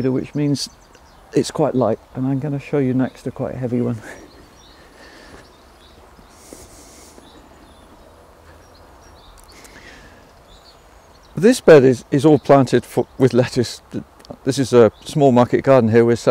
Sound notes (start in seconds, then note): 4.0 breathes heavily; 5.3 footsteps stomping; 5.7 birds chirping